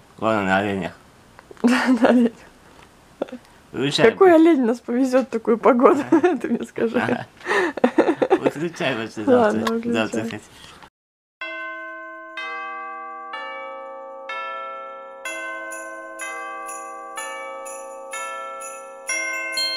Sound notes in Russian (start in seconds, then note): 1.6 смеётся; 7.4 смеётся; 10.3 оба смеются